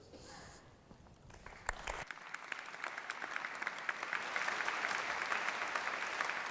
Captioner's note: applause